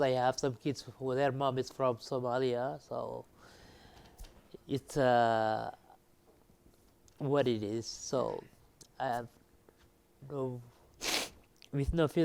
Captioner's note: sniff